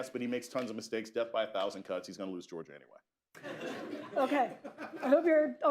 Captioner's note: laughter